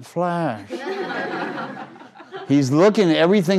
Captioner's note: crowd laughing